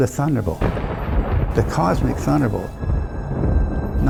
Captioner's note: thunder rumbling